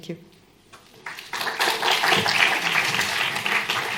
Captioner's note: applause